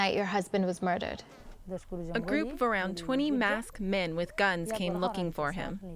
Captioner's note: through translator